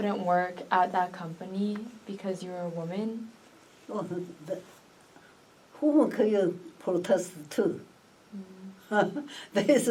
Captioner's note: laughs